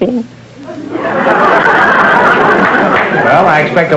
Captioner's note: audience laughter